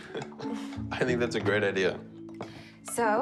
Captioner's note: laughing